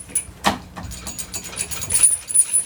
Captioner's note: metal clanking